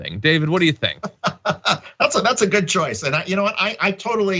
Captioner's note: laugh